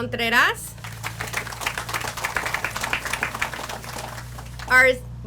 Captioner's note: audience applauds